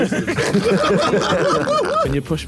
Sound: all laughing

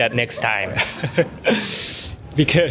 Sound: chuckles

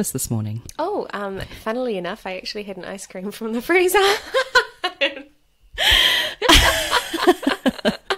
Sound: laughs

